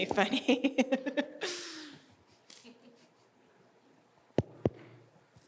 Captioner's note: laughing